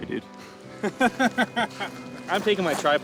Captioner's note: laughing